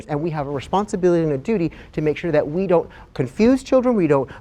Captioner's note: none